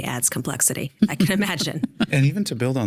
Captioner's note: laughing